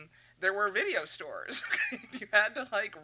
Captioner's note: laughs